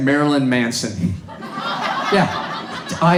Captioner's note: audience laughs